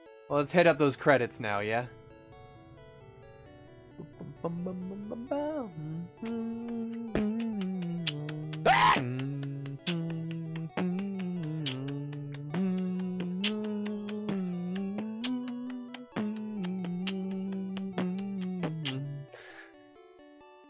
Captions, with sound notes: Well, let's head up those credits now, yeah? (beatboxing to music)